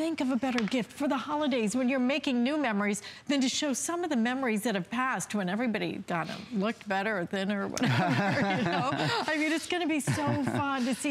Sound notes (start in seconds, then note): 7.8 laughter